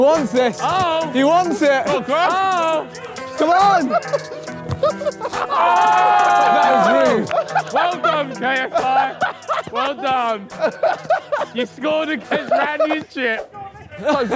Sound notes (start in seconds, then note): 5.2 group In Unison; 7.6 laughs